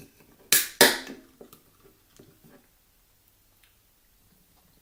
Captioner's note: the sound of an ice cold beer-can beeing opened